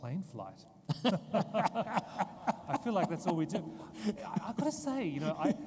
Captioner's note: both laughing